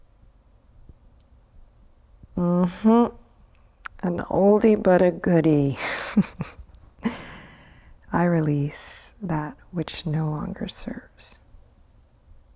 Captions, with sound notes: Mhmmm, an oldie but a goodie. (chuckles) "I release that which no longer serves."